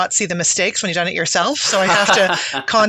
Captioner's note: laughing